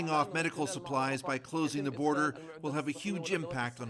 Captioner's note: speaking alternate language